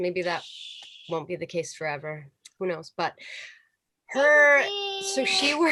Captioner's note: child talking in the background